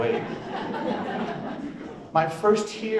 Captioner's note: audience laughs